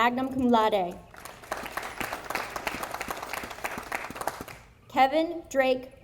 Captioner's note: audience applauding